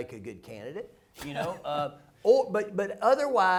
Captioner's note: laughter